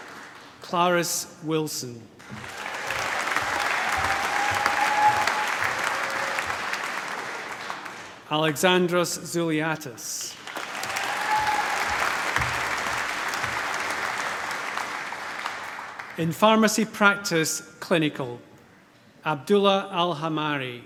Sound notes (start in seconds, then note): 0.0 applause; 2.2 applause; 10.4 cheering, applause